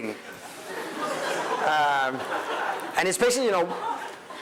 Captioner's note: crowd laughing